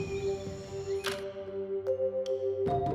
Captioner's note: camera clicks